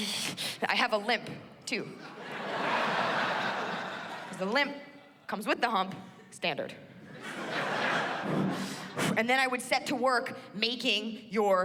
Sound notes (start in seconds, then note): 7.4 sighs